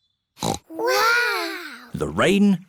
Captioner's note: peppa snorts